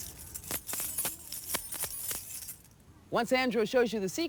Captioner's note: keys jingle